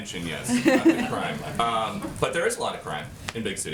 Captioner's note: laughter